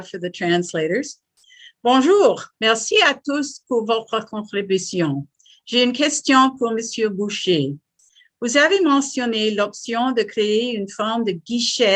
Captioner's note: French